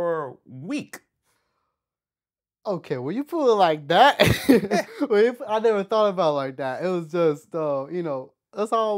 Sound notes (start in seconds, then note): 5.6 laughs